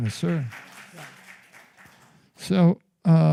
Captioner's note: applause